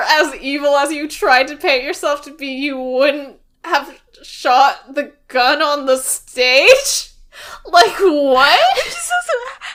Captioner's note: laughs